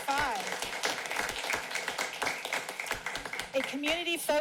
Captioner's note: applauding